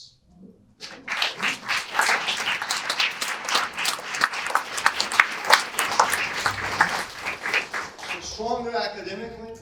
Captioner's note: audience applause